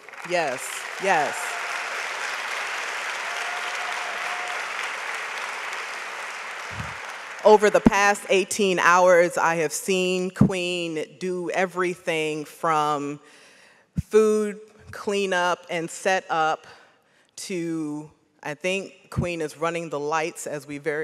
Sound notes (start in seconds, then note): 1.7 audience applauds